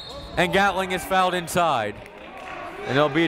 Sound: whistle

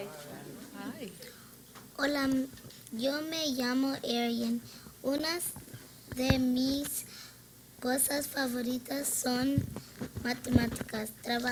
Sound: foreign language 00:22:00-00:22:27

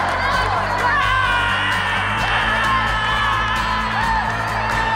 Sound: roaring

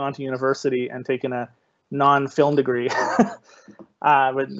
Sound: laughing

